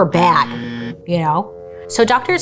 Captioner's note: alarm buzzes